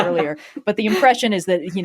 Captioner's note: laugh